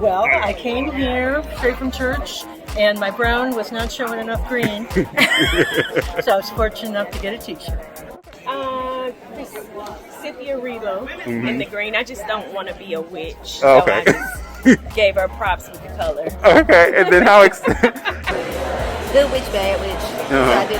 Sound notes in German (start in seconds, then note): 16.4 Gelächter